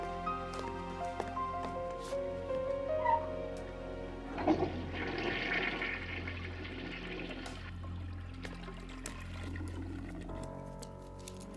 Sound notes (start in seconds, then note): 4.2 flushes